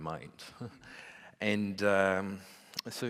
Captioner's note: laughs